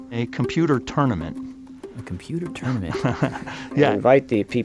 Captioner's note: laughs